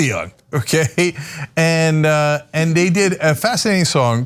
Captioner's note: laugh